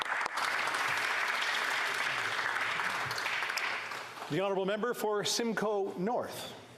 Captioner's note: applause